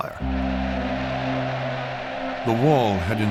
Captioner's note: cheering